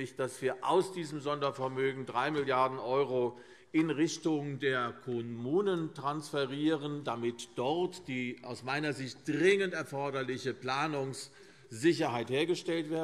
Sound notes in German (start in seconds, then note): none